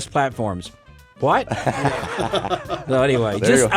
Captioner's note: hosts laughs